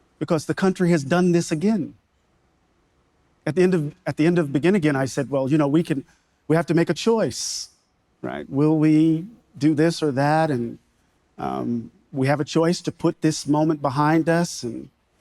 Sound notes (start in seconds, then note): none